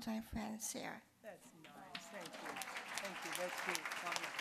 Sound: applause

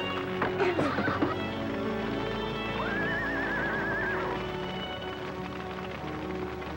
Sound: fire crackling; horses whinnying

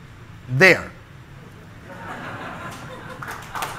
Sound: crowd clapping

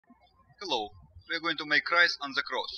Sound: birds chirping

